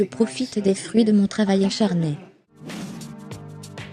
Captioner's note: laughing; dramatic music